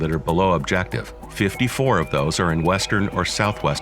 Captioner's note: elk calls